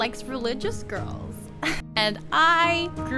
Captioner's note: laughter